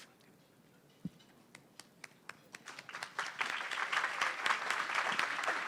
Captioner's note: applause